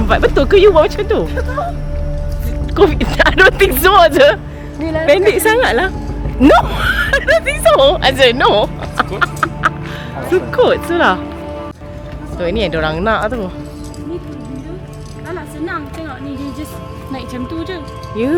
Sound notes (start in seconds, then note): 4.3 laugh; 8.7 laugh; 10.4 speaking German